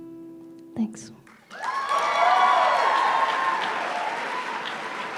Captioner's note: applause